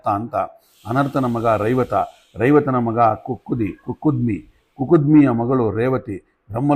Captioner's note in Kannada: ಬುಸುಗುಟ್ಟುವಿಕೆ